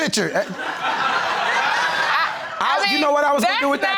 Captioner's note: crowd laughing